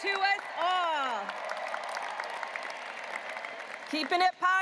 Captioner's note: audience applauding